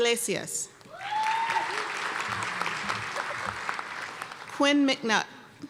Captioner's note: cheers and applause